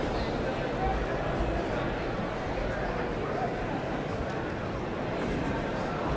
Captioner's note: audience chattering continues